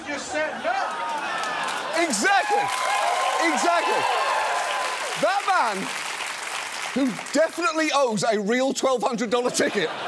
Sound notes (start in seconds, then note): 3.1 audience cheers; 5.6 audience applauds